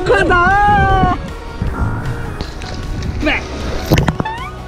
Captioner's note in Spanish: Ocupado chapoteando